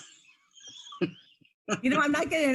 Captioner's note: laughing